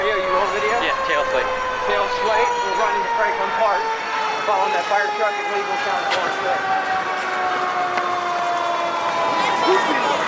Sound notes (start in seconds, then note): 6.9 sirens drown out speaker; 8.8 sirens wailing